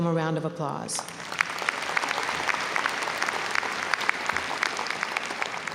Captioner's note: audience applauding